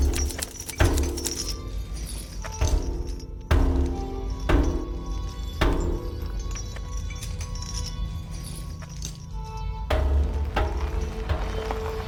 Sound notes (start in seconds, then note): 0.0 percussive music continues; 6.8 chains rattling